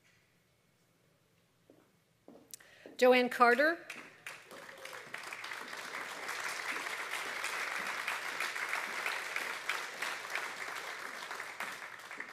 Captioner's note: applause